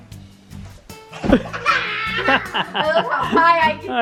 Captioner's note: laughing